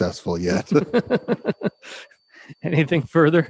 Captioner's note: man laughing